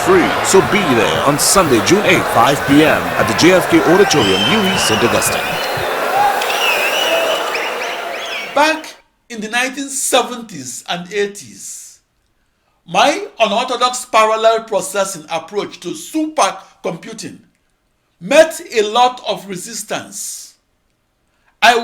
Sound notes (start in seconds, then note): 4.9 wild applause and cheering for 22 seconds